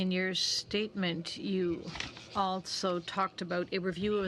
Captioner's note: speaking French